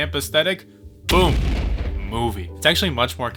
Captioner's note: explosion